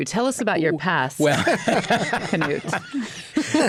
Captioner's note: laughs